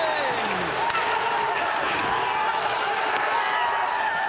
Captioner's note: crowd cheering